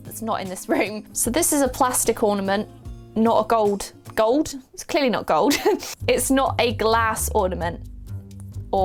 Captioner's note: laughs